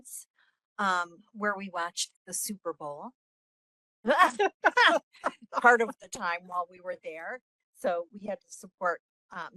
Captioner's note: laughing